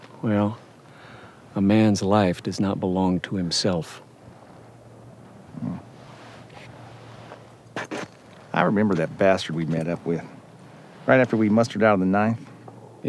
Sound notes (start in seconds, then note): none